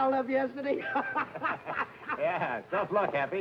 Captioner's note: happy laughing